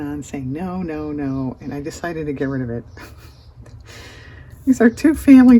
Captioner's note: laughs